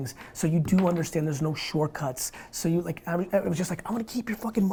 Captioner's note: none